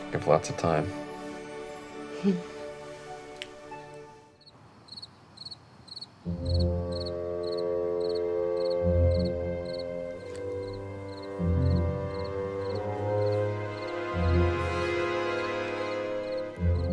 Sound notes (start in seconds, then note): 4.4 crickets chirping; 6.3 suspenseful music